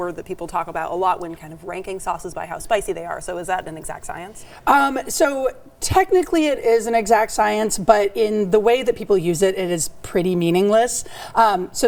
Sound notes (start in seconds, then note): none